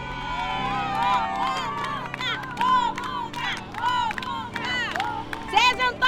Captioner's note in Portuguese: multidão